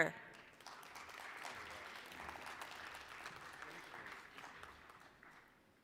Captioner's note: applause